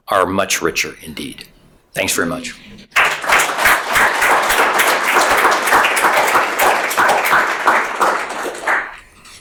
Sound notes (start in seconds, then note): 2.9 audience applauding